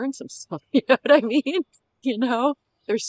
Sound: laughter

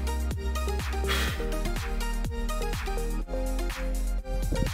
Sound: blows loudly

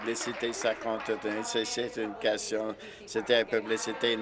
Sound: applause

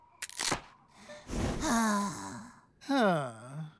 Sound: sighs

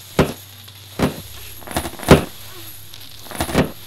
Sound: banging Gets Louder

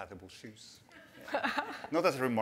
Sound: laughter

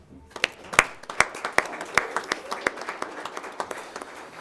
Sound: audience applauding

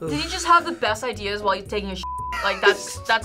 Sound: beep

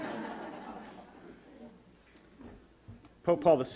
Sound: audience laughter

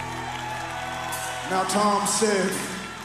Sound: cheers and applause

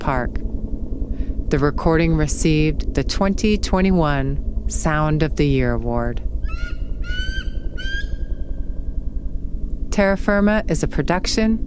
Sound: eagle call over sound of helicopter

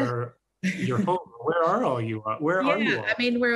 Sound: chuckles

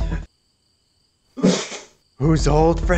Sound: sneezes

